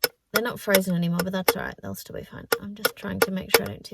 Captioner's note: more tapping; tapping continues; tapping intensifies